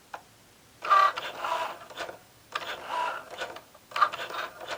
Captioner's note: machine whirring